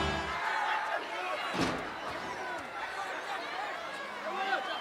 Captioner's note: dramatic music; audience shouting